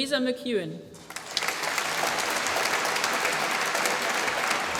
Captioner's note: applause